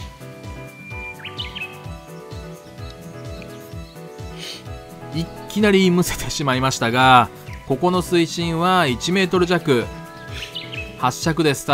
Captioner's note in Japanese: 鳥の鳴き声